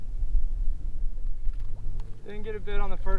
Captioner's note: water bubbling